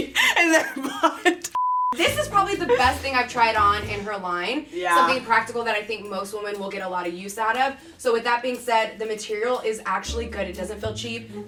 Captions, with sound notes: and their butt. (laughing) (beep) - This is probably the best thing I've tried on in her line. Something practical that I think most women will get a lot of use out of. So with that being said, the material is actually good. It doesn't feel cheap.